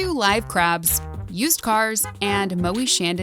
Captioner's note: horn honking